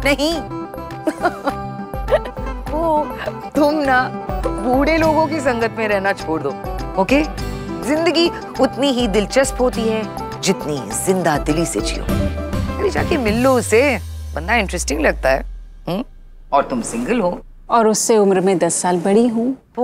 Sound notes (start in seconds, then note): 2.0 laughing